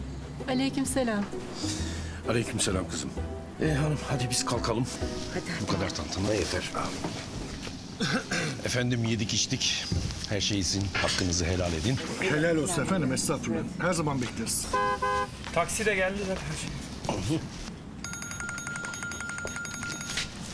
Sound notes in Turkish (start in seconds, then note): 14.6 Korna çalıyor; 18.0 Telefon çalıyor